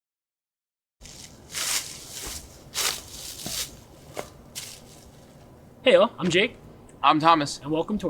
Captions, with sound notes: (leaves crunching underfoot) - Hey, y'all. I'm Jake.